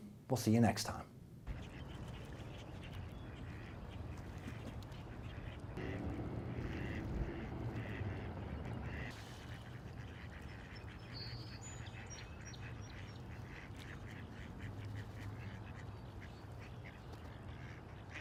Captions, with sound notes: We'll see you next time. (Sounds of ducks)